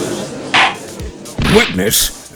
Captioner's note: gallery chattering; gavel slams!